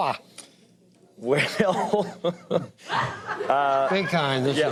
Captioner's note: laughs